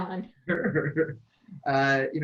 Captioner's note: laughs